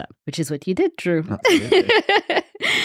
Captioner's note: laughs